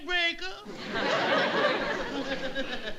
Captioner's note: audience laughing